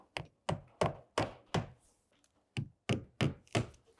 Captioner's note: hammer knocking